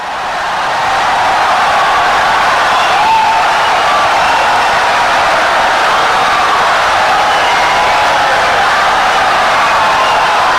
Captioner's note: wild applause and cheering for 17 seconds